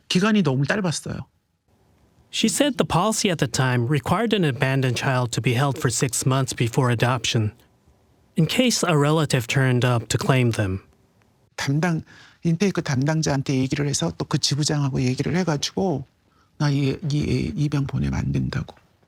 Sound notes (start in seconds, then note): 12.9 speaking Korean